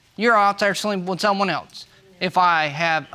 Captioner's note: none